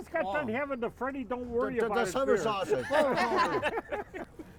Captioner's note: everyone laughing